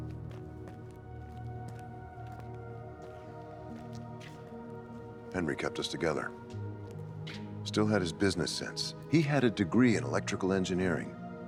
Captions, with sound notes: (footsteps tapping) - Henry kept us together. Still had his business sense. He had a degree in electrical engineering.